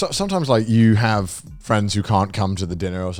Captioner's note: none